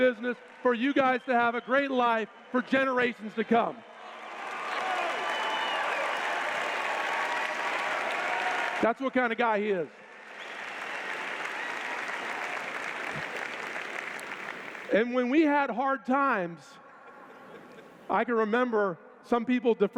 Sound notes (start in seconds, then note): 3.8 cheers